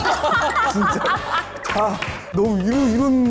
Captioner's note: laughing